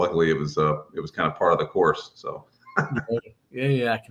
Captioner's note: laughs